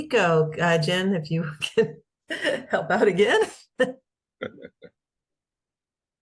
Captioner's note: laughs